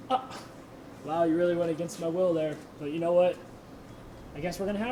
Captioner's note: laughs